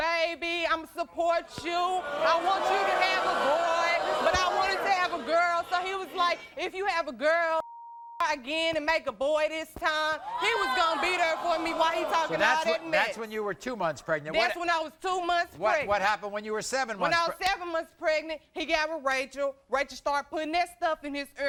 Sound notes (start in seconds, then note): 10.2 audience yelling